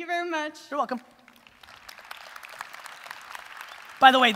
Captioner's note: audience applause